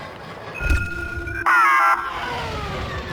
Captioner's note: beeps